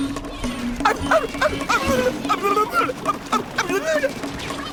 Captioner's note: Courage noises